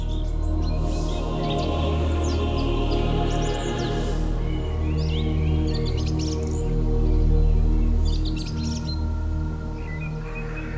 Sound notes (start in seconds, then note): 4.7 birds chirping